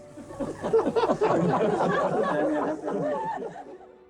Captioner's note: crowd laughs